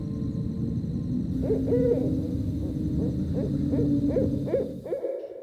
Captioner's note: wolves howling